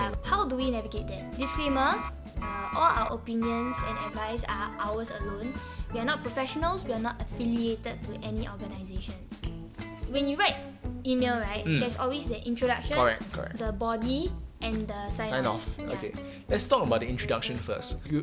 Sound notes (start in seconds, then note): 9.4 finger snapping